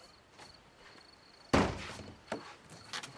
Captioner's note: door slamming